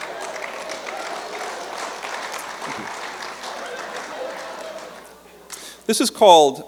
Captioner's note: laughter; applause